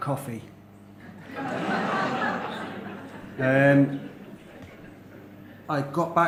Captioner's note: laughter